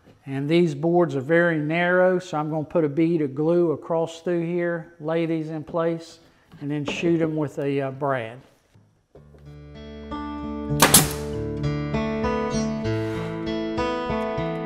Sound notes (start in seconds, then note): 9.6 gentle guitar music; 10.8 nailer snapping